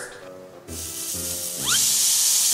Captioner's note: slide whistle slides; patty sizzling